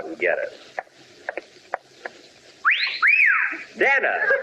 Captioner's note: whistle